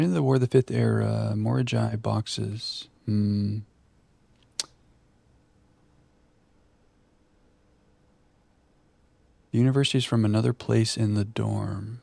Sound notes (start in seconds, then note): 4.4 click